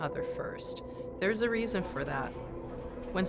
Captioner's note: patrons faintly speaking